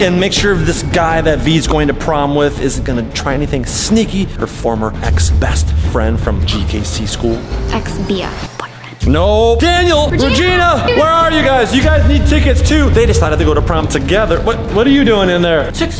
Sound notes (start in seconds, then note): 10.1 yells